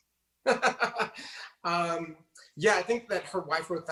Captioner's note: laughs